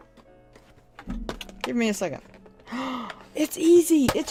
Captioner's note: gasps